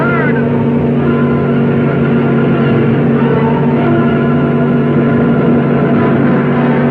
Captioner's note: cars revving; thrilling music